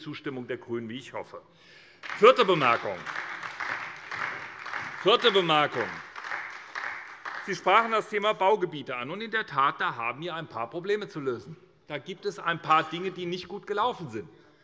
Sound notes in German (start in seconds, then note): 2.0 Beifall bei der SPD